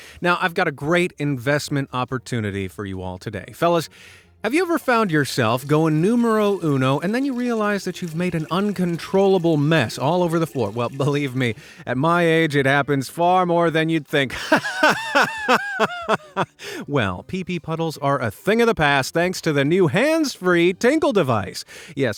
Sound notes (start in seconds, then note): 14.3 laughs